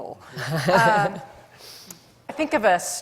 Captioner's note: laughs